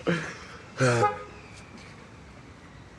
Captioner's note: he sighs, horn honks